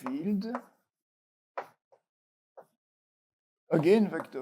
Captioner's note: chalk taps